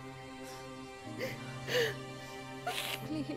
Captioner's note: Meher crying